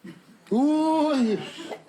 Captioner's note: laughs